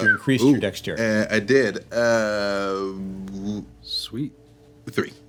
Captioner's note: whistling